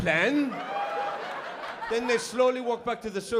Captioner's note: laughter